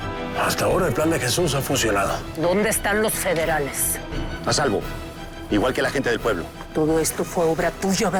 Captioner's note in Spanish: none